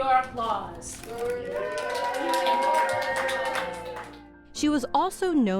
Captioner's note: cheering